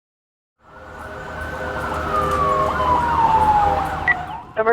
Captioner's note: sirens wailing